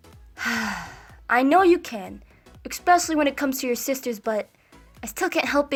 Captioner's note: sighs